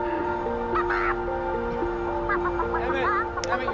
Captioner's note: chicken noises